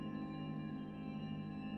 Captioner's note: none